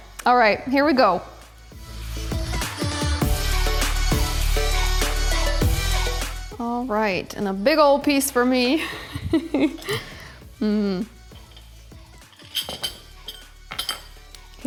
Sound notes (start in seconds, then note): 8.8 laughs